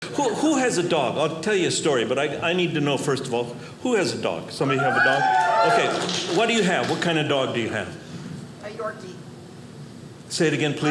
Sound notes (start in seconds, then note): 4.6 audience cheering